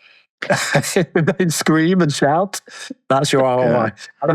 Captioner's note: laughs